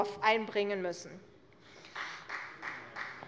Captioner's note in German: Vereinzelter Beifall CDU